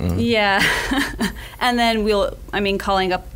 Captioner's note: laughs